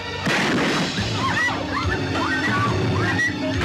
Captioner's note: gunshot